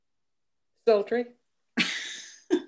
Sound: laughter

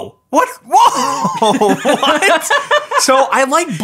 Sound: laughs

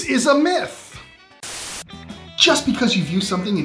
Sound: static hissing

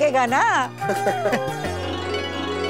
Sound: laughing

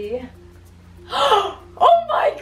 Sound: gasps

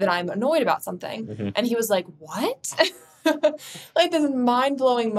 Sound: chuckles

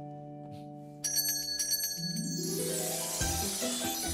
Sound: watch ringing sound

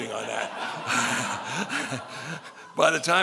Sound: laughing

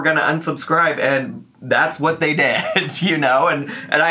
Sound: laughs

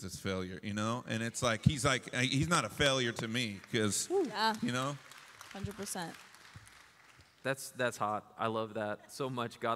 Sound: applause

